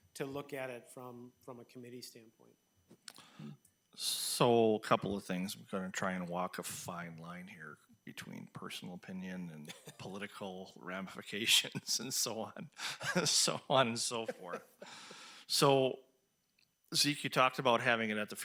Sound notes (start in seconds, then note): 12.8 laughing